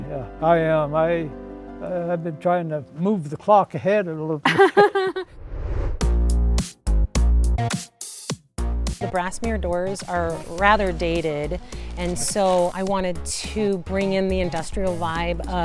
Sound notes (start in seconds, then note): 4.4 laughs; 6.5 upbeat music